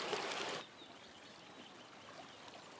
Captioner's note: birds tweeting